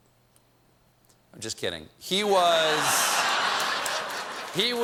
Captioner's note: laughter